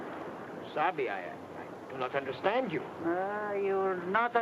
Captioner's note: speaks in foreign language